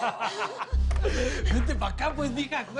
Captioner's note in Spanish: Risas